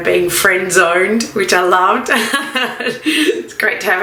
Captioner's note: laughs